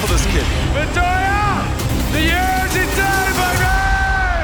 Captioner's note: du Plessis speaking in Afrikaans